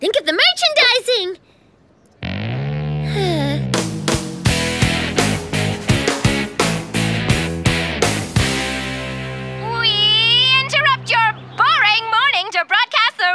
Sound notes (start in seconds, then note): 2.6 sighing